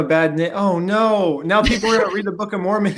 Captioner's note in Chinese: 笑声